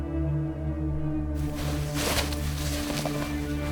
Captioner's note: rustling leaves